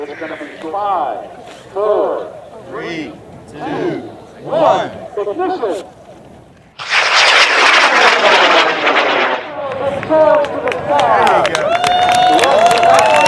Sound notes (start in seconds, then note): 6.7 rocket launching; 10.6 cheering